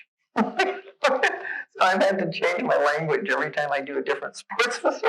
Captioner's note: laughs